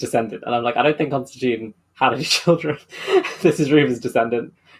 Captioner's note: laughs